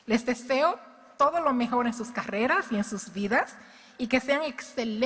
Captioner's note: speaking in Spanish